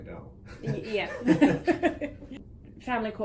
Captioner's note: chuckles; laughing